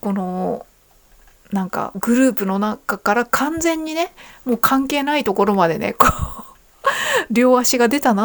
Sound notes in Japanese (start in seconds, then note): 6.9 笑い